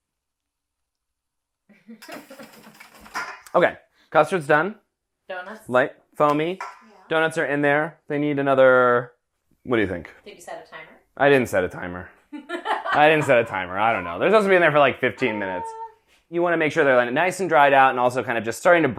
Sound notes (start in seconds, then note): 12.3 laughing